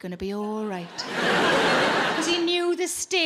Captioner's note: audience laughing